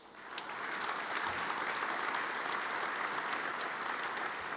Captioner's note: audience applauds